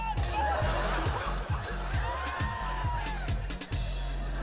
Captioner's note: audience laughing